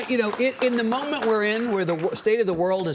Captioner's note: audience clapping